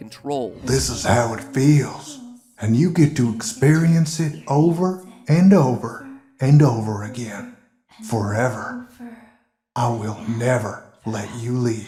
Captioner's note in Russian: вместе с голосом медведя параллельно идет девчачий голос